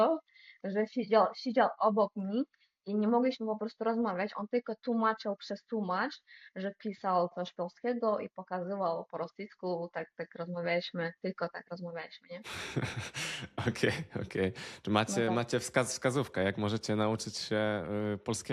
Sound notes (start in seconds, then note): 12.5 laughter